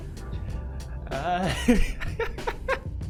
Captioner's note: pewds laughing again